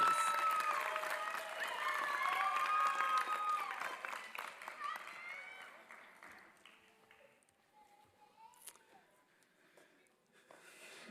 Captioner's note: applause